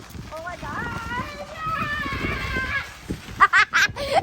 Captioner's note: screams; girl laughing